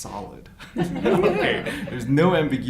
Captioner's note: group laughs